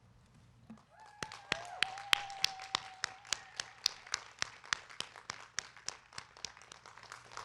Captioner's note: crowd cheering; crowd clapping